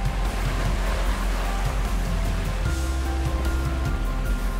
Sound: waves splash

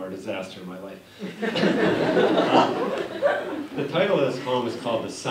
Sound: laughter

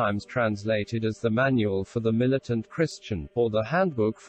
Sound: voice reads

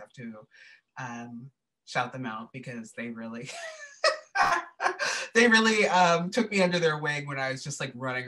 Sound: laughter

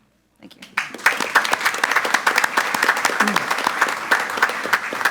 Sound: group applauding

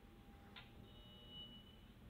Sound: elevator beep

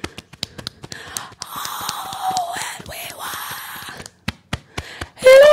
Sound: beating Chest; held back scream; beating Chest

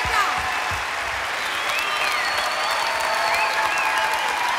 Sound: cheers and applause

